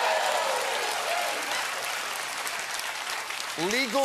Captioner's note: applause